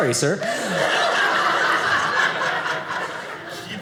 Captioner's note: audience laughing